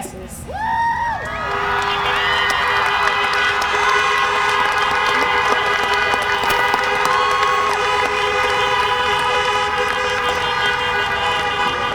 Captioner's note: applause, horns honking